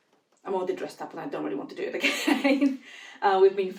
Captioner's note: laughs